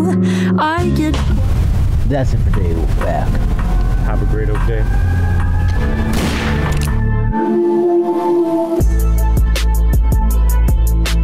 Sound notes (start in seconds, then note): 0.7 music fades out; 5.9 gunshot sound effect